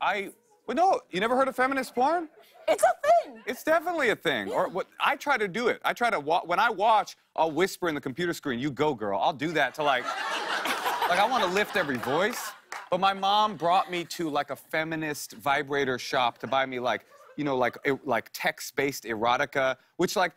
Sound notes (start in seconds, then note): 9.8 laughter